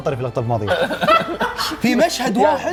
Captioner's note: laughter